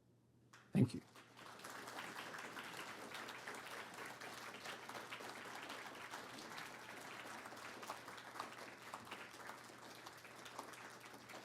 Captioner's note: audience applauding